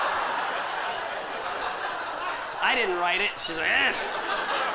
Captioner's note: mutters